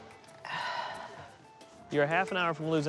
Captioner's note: sighs